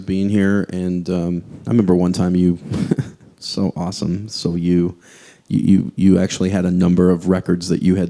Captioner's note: laughs